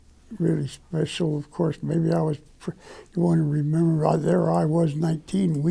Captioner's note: stutter